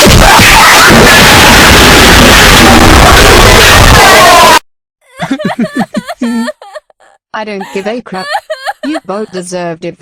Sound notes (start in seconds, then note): 5.0 crying